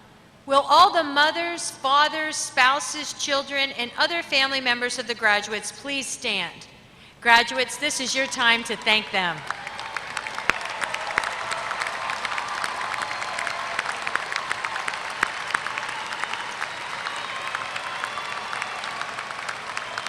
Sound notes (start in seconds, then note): 9.4 applause